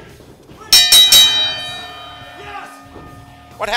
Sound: referee slapping; bell ringing

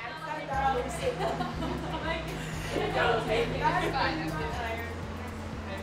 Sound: volleyball players chatter

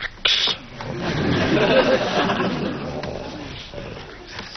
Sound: laughs

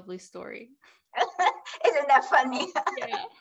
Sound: laughs

